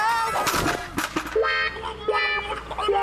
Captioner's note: thud!